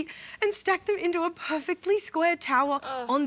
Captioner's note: none